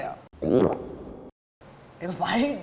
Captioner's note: gulp